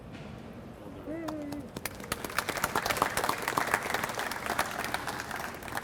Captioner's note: audience applauds